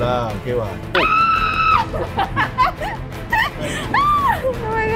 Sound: screams followed by laughter

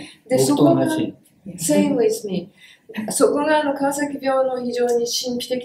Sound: speaks in Japanese

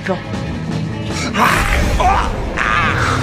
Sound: growl

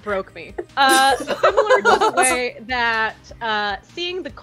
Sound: laughter

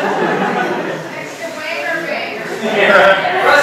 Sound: audience shout

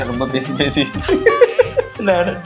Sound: laughs

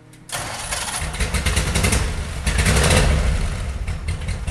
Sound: engine turning over

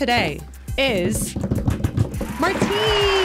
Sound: drum rolling on table

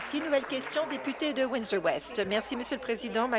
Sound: applause

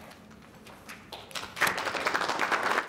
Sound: applause

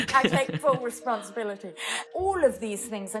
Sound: both laughing

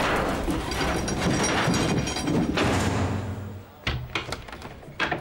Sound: chains Clanging

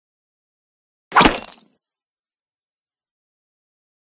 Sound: sound of sword

